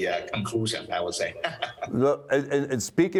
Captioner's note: laughs